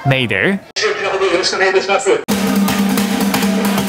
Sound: man speaks in japanese; drumming

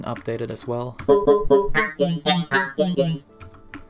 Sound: robot talking noises

